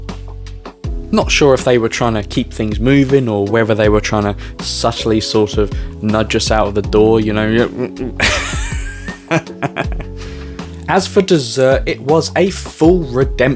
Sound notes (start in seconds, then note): 7.6 cough cough